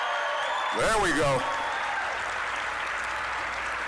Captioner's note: applause, cheering; applause